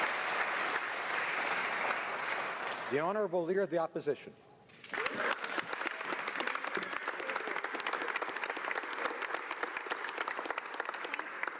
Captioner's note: applause